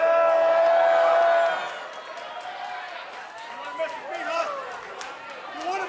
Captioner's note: cheers and applause